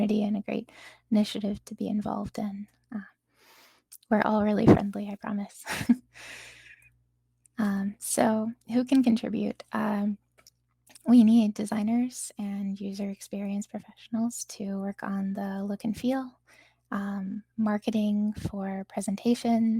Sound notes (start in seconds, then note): 5.7 chuckles